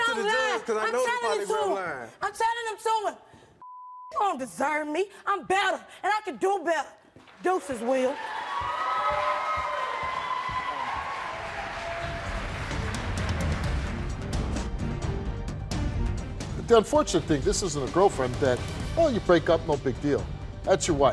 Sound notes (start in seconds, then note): 3.6 beep; 7.9 audience cheering; 12.5 dramatic music